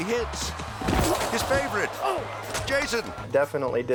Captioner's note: grunting